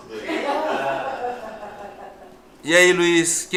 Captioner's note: laughs